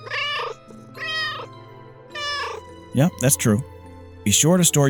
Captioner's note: meow, meow